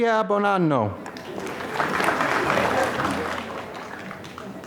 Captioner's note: applause